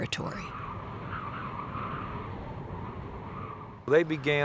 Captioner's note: wind howling